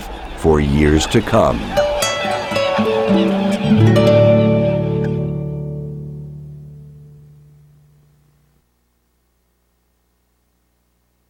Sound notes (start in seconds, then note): 1.7 mellow guitar melody; 1.9 squawking birds